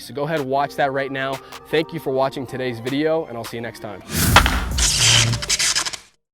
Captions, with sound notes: So go ahead, watch that right now. Thank you for watching today's video and I'll see you next time. (exciting music) (electric buzzing)